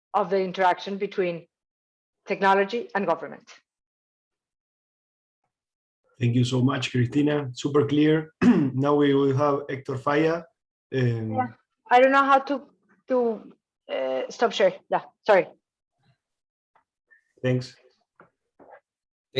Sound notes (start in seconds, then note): 8.3 clears throat